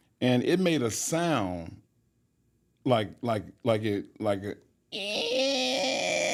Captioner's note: Mark grunts